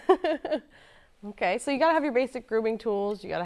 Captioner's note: chuckles